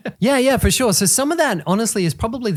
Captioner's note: laughing